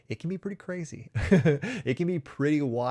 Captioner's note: chuckles